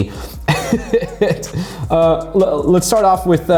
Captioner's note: laughing